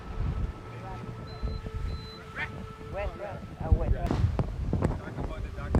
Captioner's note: people conversing faintly